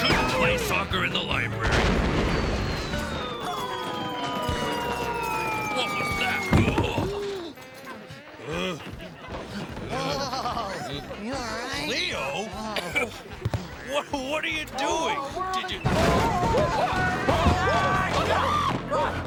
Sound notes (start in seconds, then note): 3.0 Cleo yelling; 6.5 thud; 7.9 groaning; 15.4 yelling and crashing